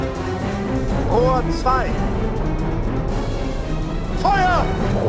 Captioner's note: speaking foreign language